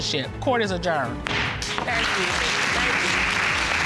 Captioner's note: gavel bangs; audience applauding